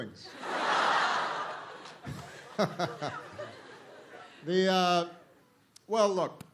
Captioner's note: laughter